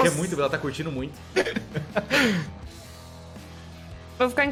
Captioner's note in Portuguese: risada